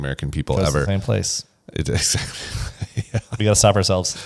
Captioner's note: laughs